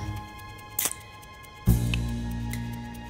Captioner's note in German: Schnalzen